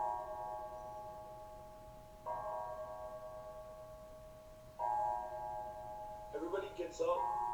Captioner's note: an alarm gongs throughout the building